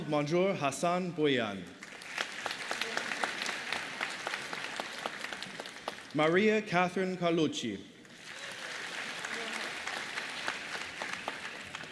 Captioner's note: applause